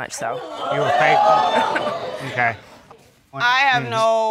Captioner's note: audience gasps